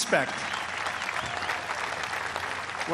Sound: applause

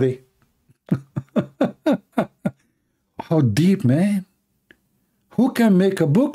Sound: Ketawa

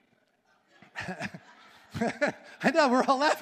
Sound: all laughing

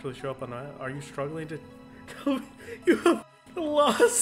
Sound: cracks up

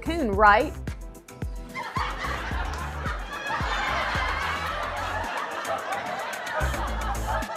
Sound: studio audience laughter

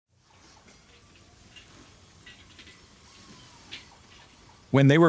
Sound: equipment clanking

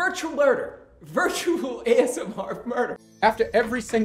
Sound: laughing

